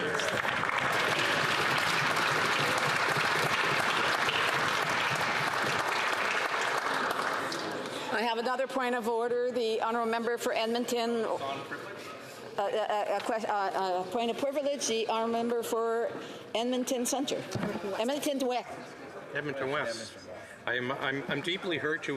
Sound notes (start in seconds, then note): 6.2 applause